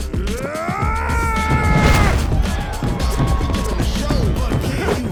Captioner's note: upbeat music; The Hunk shouts